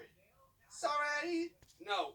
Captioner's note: autotuned voice